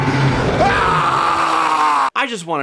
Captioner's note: parental scream